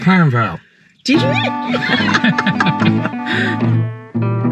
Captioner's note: laughter